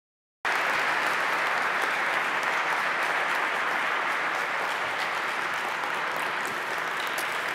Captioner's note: applause